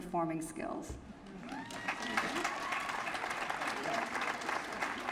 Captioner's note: applause